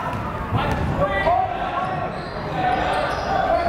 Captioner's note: yelling